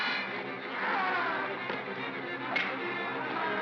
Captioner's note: thump & crack; Bogeyman cries out